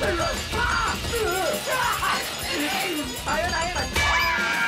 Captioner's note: bells sound as dark vegan racks up points